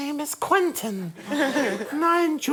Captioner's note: laughter